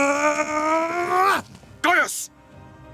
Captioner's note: screams